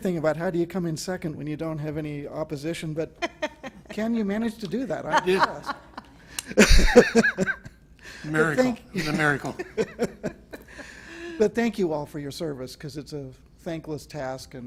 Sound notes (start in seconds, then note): 4.9 laughter; 9.0 laughter